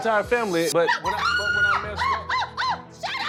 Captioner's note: screaming